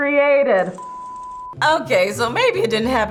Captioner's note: static whirring